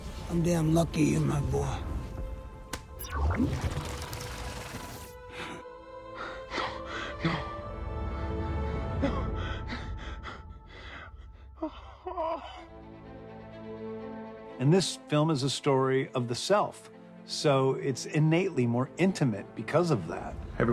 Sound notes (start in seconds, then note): 3.0 beeps, whirring; 4.9 chuckles; 6.1 gasping; 9.1 gasping; 10.8 gasps, whimpers